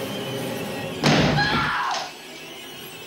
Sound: she screams

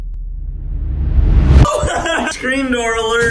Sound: intense music; laughs

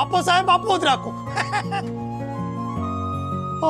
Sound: chuckling

